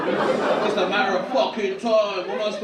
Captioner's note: audience laugh